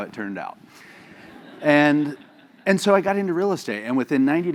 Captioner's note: laugh